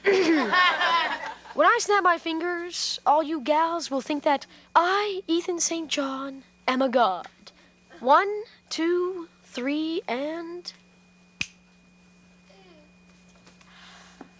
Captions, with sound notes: (audience laughs) When I snap my fingers, all you gals will think that I, Ethan St. John, am a God. One, two, three, and... (finger snaps)